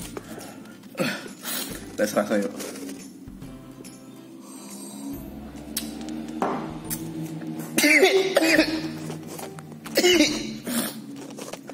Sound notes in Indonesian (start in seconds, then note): 4.6 slurppp